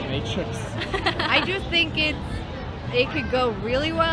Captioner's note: laughing